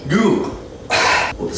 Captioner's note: cough